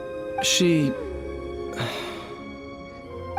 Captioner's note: sigh